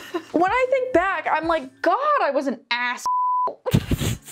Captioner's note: beeps